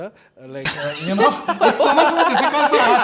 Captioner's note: all laugh